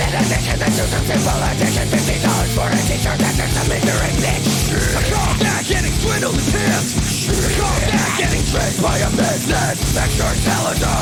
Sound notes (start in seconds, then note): 7.3 laughs